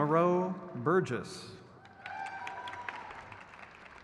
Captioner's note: crowd claps